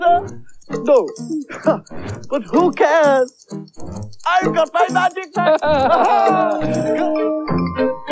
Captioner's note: Toby Laughs